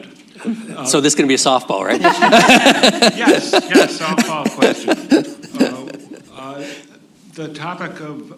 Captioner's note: laughter